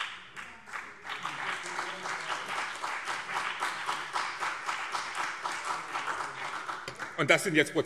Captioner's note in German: Beifall BÜNDNIS 90/DIE GRÜNEN und CDU